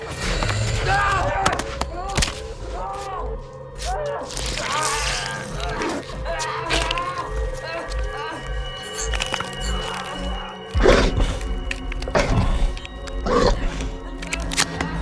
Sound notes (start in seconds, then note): 0.1 vampires growl; 4.0 Adam groans; 10.9 vampires growl